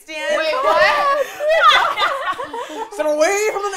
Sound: laughter

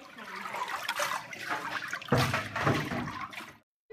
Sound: sound: water dripping off deckle

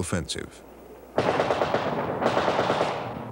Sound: machine gun fire

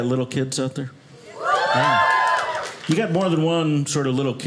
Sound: audience cheers

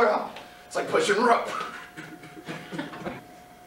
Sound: laugh

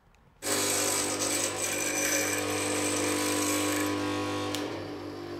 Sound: sound of grinding machine

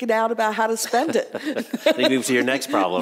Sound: laughing

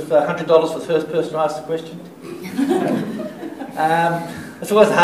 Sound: laughter

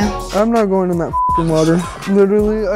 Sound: beep

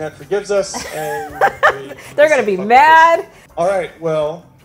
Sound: laughs

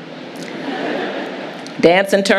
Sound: audience laughing

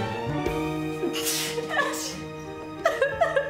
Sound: sneeze; crying

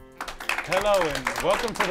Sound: applause

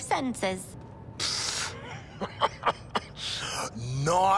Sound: laughs

